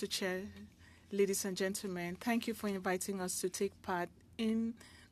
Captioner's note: speaking French